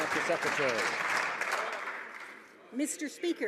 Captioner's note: some Applause